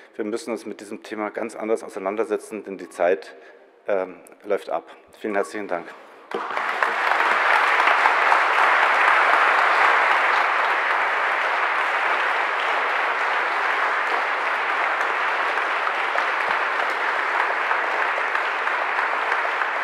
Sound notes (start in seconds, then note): 6.2 general applause